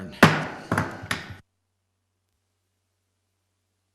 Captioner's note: gavel banging